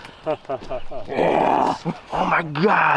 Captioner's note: laughs